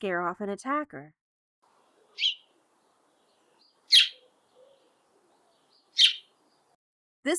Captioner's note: house Sparrow call, three short chirps